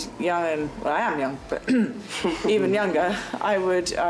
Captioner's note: clears throat